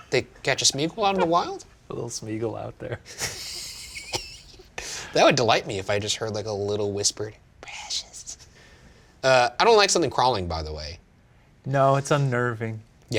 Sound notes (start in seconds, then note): 3.0 laughing